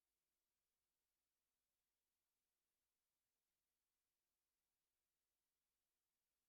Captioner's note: none